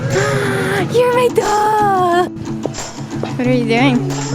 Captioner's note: gasps